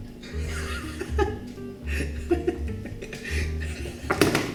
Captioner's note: giggling